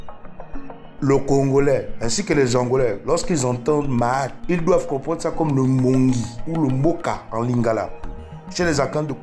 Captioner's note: in Kikongo; in Lingala